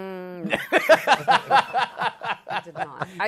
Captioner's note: laughter